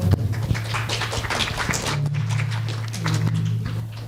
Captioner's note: applause